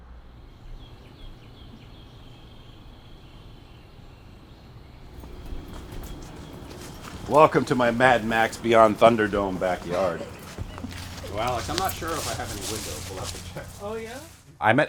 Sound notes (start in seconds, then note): 0.7 birds chirping